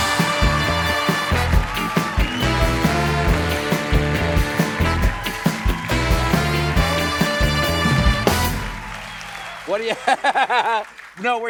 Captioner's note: cheers and applause